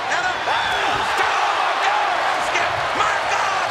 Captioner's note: audience cheers